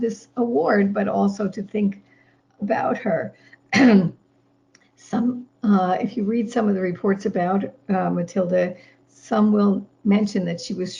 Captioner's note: clears throat